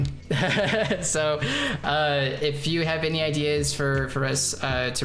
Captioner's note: laughing